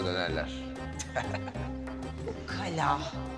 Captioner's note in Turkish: Gülüyor